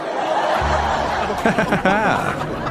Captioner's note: laughter